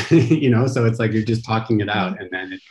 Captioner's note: chuckling